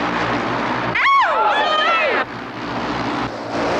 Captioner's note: bikes droning; cheers; bikes droning